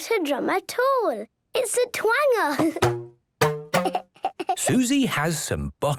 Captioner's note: giggling